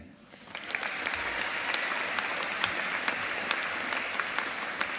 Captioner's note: audience applauding